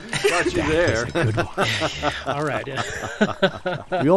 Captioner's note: all laugh